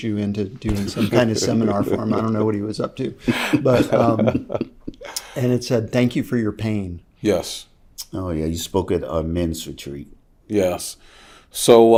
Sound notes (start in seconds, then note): 4.0 laughing